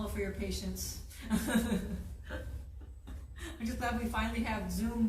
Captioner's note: laughs